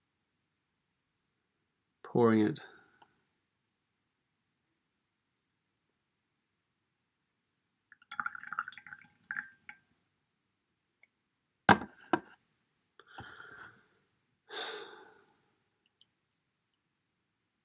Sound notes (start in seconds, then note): 7.9 sounds of tea being poured